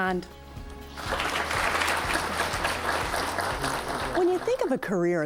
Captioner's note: applause